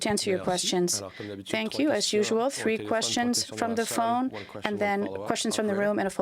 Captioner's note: speaking french